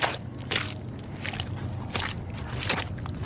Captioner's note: mud squelching sounds